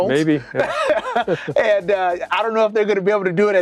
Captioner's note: laughs